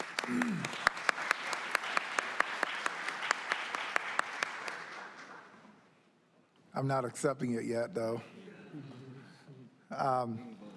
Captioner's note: applause